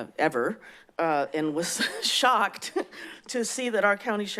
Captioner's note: laughs